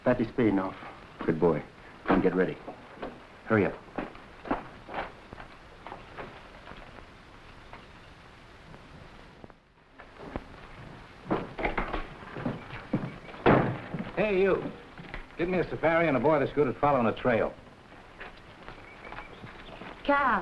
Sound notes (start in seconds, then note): 3.6 footsteps echoing; 13.4 door slamming; 17.6 footsteps echoing